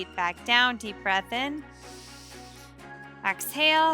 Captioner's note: inhales deeply; exhales heavily